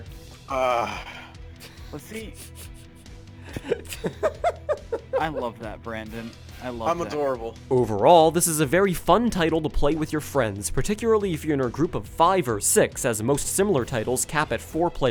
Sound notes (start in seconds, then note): 3.4 laughing